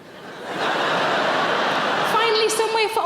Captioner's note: audience laughs